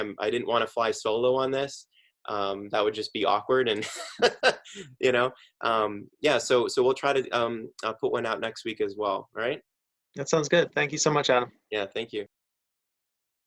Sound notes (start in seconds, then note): 3.8 laughs